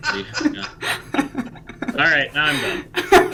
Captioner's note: laughs